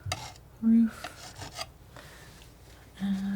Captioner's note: scratching